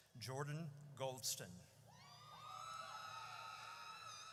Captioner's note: audience cheers